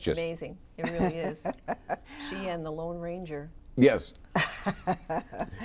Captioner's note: laughs